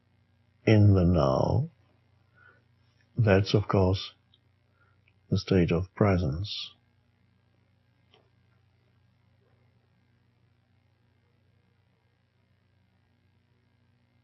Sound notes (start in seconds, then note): none